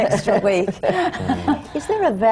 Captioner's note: laughs